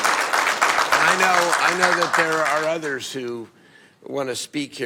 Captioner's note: applause